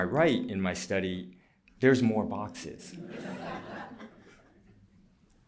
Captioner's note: laughter